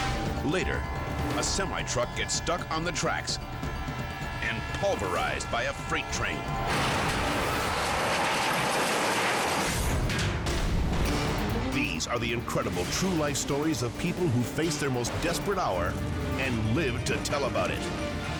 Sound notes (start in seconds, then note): 6.7 train crashing; 10.0 dramatic music